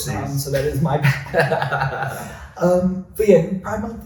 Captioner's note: laughs